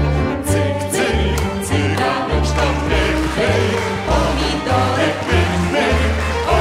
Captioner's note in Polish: oklaski